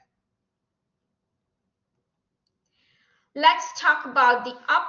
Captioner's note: silence